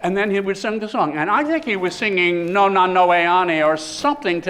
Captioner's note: speaking greek